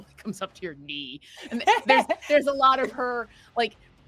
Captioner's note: laughing